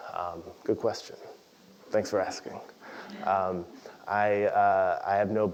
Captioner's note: laugh